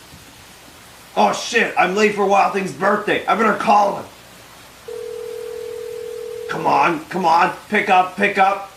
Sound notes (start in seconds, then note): 4.8 phone line rings